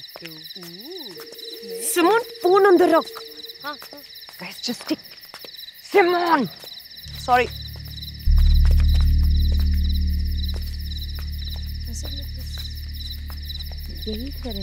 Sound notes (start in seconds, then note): 8.6 footsteps